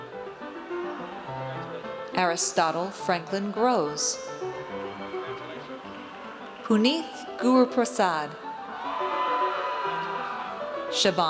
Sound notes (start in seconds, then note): 4.4 audience cheers; 8.4 audience cheers